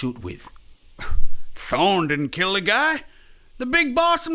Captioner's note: scoff